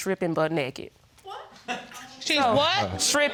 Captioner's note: man chuckles